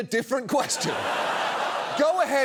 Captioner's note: studio audience laughing